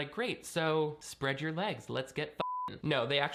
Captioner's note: beep